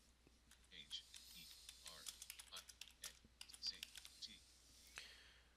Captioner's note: sound of keystrokes